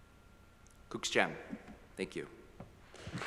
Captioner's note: foreign language